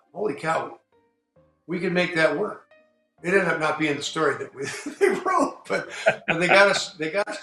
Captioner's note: laughs